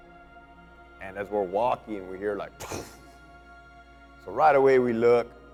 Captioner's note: imitates explosion